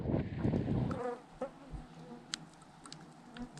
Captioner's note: buzzing